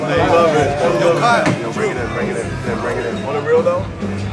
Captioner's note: group chattering